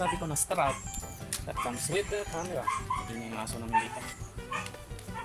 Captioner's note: dog noises